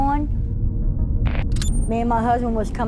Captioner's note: transition hissing and bleeping